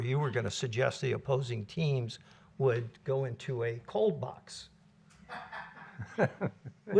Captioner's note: laughter